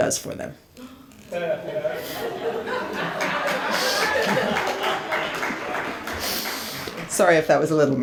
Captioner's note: audience laughs